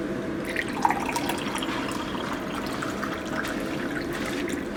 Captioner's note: water running